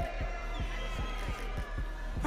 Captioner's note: audience cheering